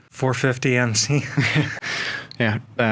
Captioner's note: both chuckling